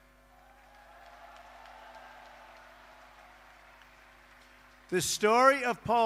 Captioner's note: applause